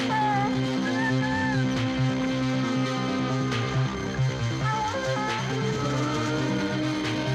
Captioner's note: dogs howling